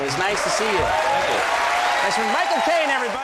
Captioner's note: cheering, applause